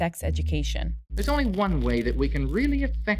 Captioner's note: soundbite of archived recording